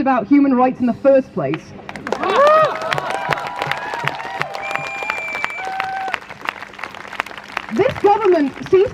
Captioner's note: crowd Cheers